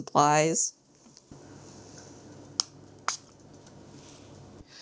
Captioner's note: spray bottle clicks